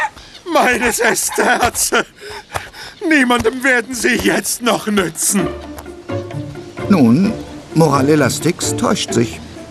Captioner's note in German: gelächter